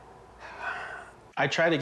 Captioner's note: sighs